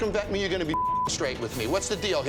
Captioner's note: beep